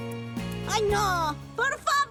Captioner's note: spluttering